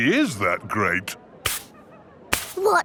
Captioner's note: brushing